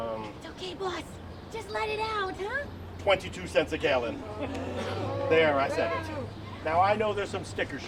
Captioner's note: booing